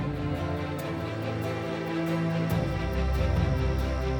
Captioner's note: excited music; crickets chirping